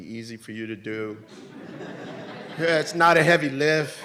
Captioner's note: audience laughs